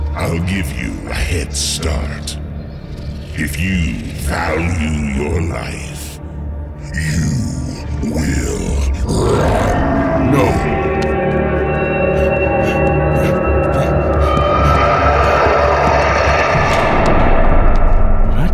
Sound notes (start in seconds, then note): 11.3 wolf roaring, panicked running footsteps; 16.3 sudden closing of heavy metal door